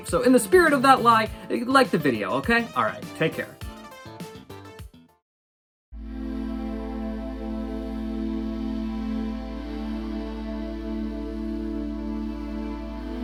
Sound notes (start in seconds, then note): none